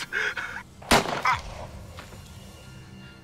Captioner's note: Rhys gasps; gun fires; suspenseful music